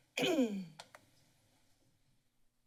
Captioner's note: clearing throat; silence